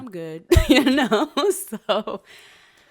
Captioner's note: laughs